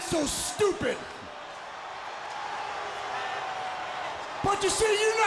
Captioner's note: crowd cheering